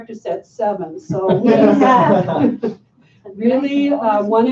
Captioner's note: laughter